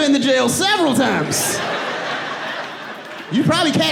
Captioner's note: audience laughs; laughs